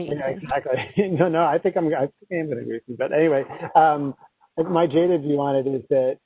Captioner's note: laughter